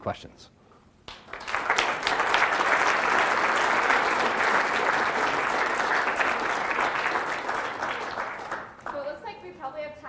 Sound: applause

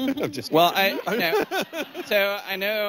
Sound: laughing; laughter

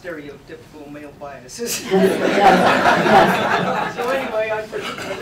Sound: laughter

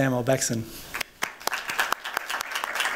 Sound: applause

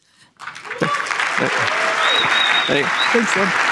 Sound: applause

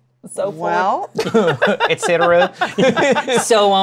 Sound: laughs

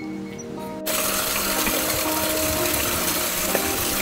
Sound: waterfall burbles

